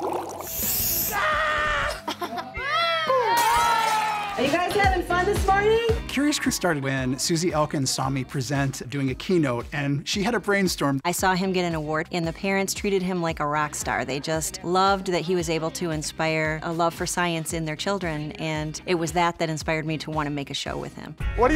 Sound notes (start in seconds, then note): 0.0 bubbling sound; 2.6 esctatic crowd cheering; 3.6 broken Glass